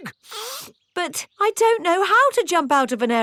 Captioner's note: sniffs